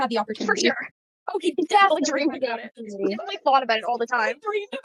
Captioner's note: overlapping chatter